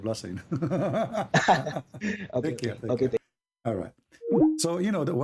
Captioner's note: Ketawa